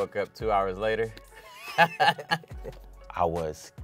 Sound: both laughing

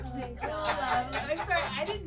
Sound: laughs

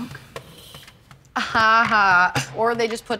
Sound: laughs

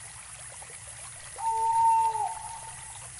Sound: bird hoots

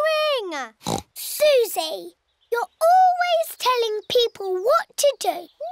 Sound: oinks

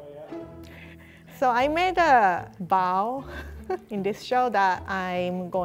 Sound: laughing

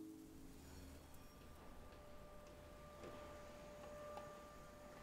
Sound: droning sound and sounds from the studio to end

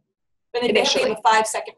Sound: voiceover

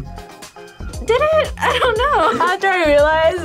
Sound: laughs

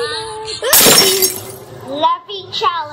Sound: glass shattering

